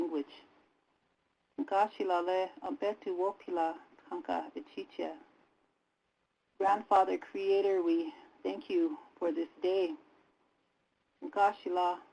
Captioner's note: native language spoken